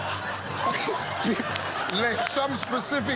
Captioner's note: laughter